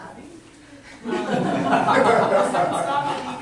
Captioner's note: laughter